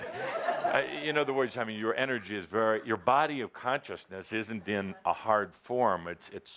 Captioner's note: laughter